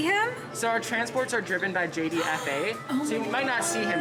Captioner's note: gasps